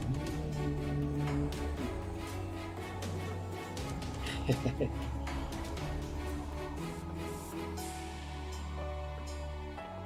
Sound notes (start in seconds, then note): 0.0 humming along; 4.2 laughs